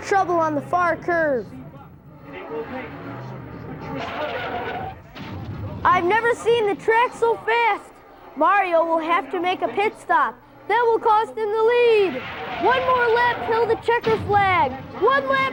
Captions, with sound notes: There's more trouble on the far curve. (tires screeching) (loud crash) I've never seen a track so fast! Mario will have to make a pit stop. That will cost him the lead! One more lap till the checker flag!